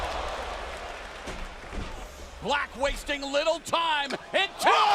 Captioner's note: crowd cheering